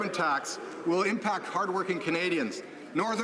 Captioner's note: some Applause